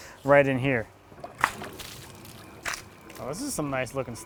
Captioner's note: water splashing